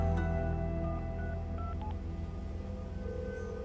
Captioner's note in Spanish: Sonido al marcar